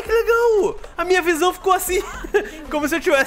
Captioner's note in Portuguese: risos